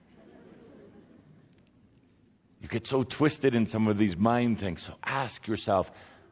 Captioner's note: some laughter